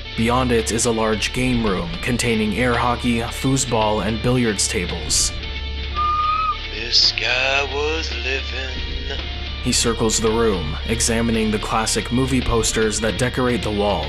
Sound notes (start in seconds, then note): 5.9 whistles softly